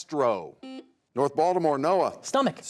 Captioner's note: buzzer sounds